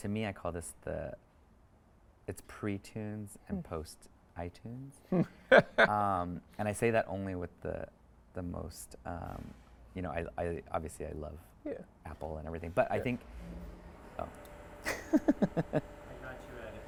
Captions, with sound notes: to me, I call this the, it's pre-tunes and post-iTunes. (speaker laughs) And I say that only with the most, you know, obviously I love Apple and everything, but I think, oh. (laughs)